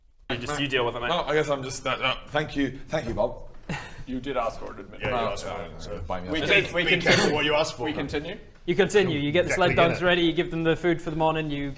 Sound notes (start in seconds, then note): 7.0 grumbles